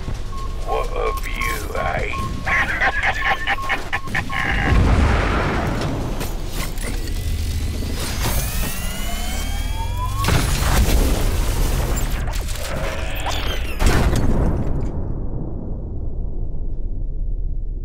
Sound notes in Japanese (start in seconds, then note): 2.2 嘲笑; 8.0 起動音